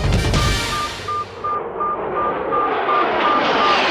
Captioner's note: beeping